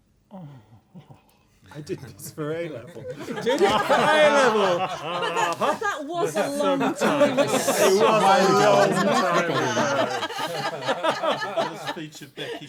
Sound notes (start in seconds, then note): 4.6 laughter; 7.3 laughter; 10.0 laughter